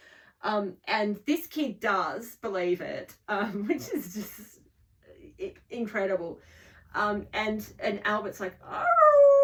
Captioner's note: howling